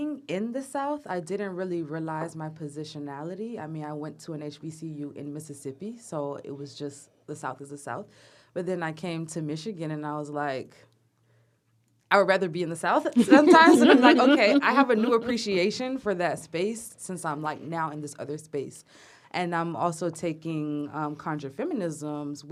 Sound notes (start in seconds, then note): 13.2 laughter